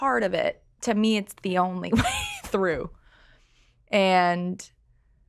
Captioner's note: laughs